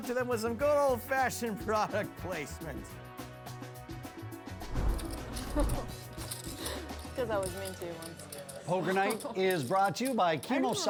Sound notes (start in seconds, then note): 5.3 laughs